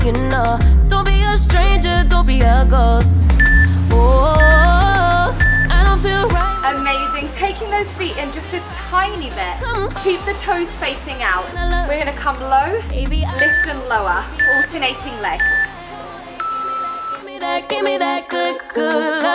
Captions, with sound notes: (timer beeps) Amazing. Taking those feet in just a tiny bit, keep the toes facing out. We're going to come low, lift and lower. Alternating legs. (timer beeps)